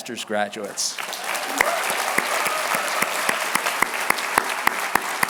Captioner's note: applause